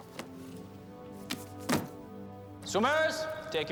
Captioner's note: book thuds